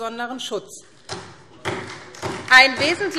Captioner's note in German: Beifall SPD